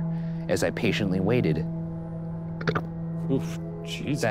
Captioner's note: burps